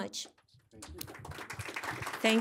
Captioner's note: audience applauding